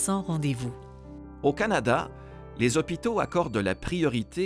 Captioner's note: Voix off masculine